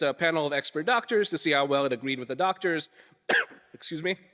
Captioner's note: coughing